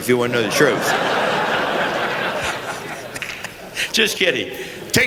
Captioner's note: laughter